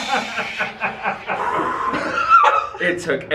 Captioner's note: exhales deeply